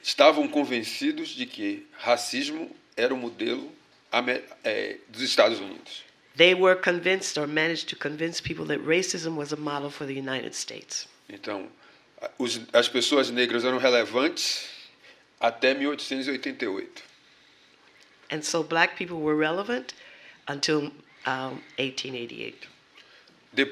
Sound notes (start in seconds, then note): 3.2 speaking portuguese; 14.8 speaking portuguese